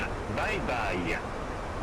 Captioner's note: radio chatter